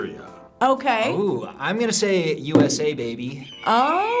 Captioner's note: eagle screeches